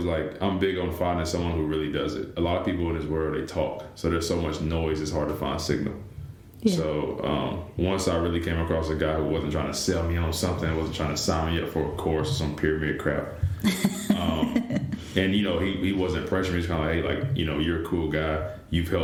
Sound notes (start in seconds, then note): 13.6 laughter